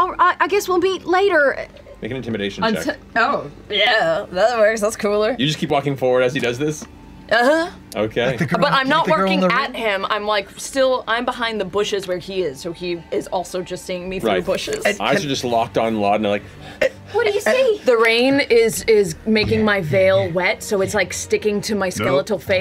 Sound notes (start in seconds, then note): 17.3 stutters, trying to start speaking